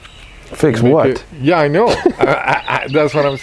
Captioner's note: laughing